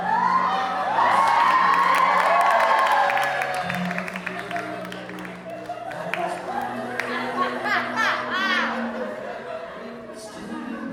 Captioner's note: audience cheers and laughs